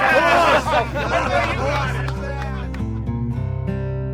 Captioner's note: laughing